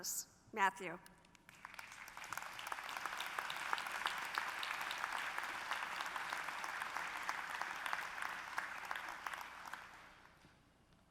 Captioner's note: applause